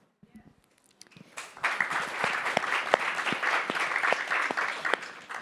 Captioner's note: attendees clapping